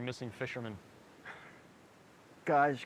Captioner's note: Skip sighs